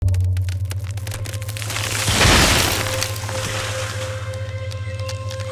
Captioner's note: wood crackling; contemplative music